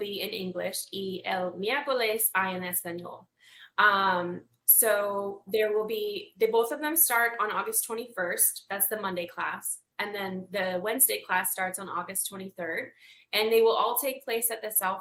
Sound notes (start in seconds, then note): 4.0 speaks Spanish